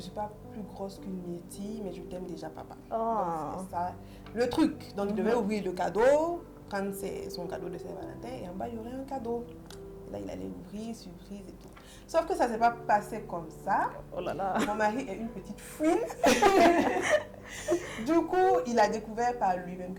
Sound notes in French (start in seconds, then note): 15.8 rires